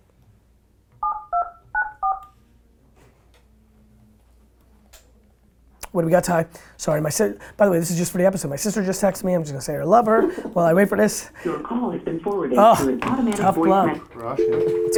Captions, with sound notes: What do we got, Ty? Sorry, by the way this is just for the episode, my sister just texted me. I'm just going to say I love her while I wait for this. - [Automated Voice] Your call has been forwarded to an automatic voice-- - Ugh, tough luck.